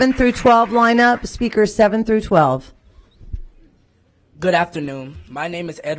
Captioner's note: applause